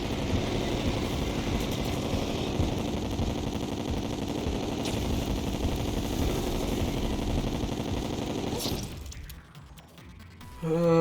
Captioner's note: sigh